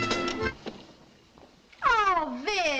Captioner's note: music stops